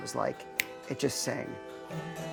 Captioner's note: snaps fingers